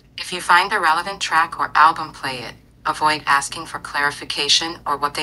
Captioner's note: none